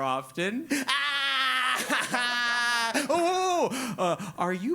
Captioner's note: laugh